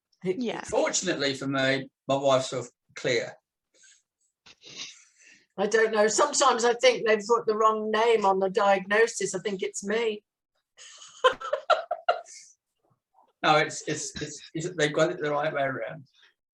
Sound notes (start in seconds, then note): 3.9 chuckles; 10.9 laughs